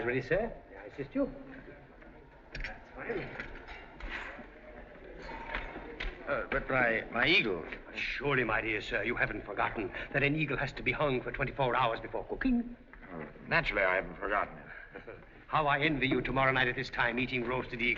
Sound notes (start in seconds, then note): 12.5 chuckles